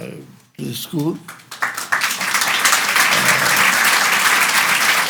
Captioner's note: audience applauds